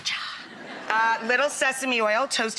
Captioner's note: audience laughs